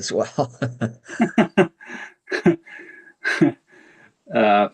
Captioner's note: participants laughing